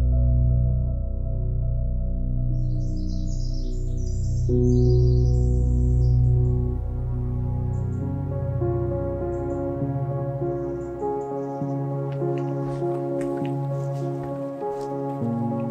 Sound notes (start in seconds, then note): 2.6 birds chirping; 7.9 melodic piano music; 11.8 footsteps crunching